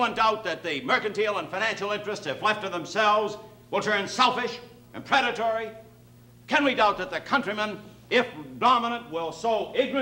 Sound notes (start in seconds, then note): none